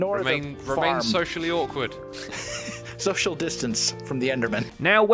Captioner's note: laughing